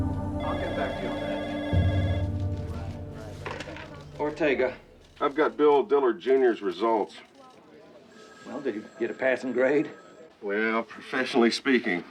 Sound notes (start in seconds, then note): 0.0 phone ringing